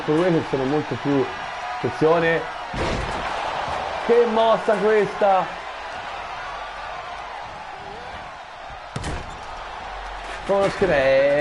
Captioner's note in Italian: Applauso